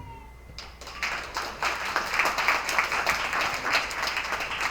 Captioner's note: attendees applauding